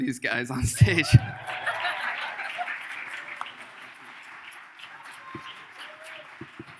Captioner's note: laughs; audience cheers